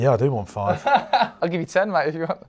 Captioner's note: laughs